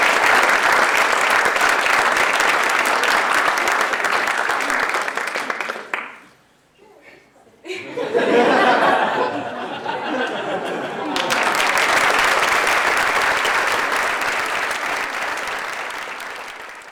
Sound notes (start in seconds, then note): 5.3 applause; 5.3 laughter